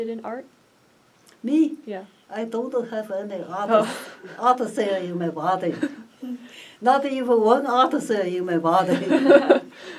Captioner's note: laughs; all laugh